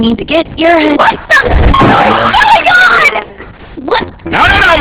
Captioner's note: boing!